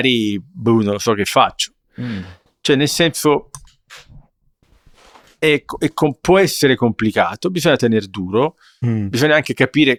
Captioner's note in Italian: sbuffare